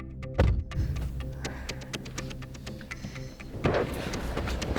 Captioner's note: ominous music; wind blowing; car door bangs; wind blowing